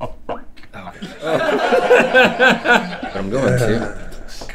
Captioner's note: laughter